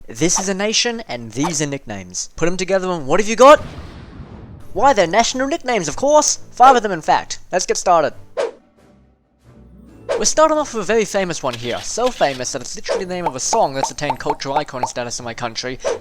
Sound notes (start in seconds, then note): 3.5 explosion